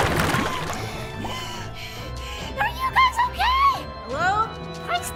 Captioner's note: gasping for air